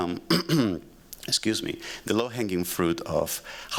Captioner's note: clears throat